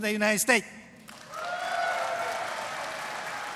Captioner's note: applause